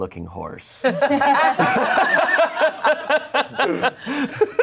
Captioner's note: everyone laughs